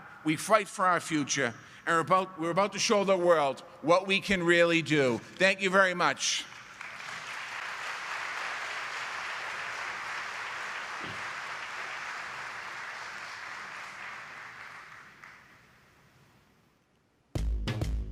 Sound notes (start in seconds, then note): 6.2 applause